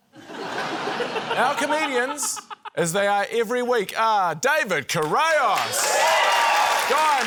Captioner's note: laughter; cheering, applause